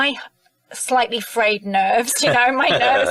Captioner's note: people laughing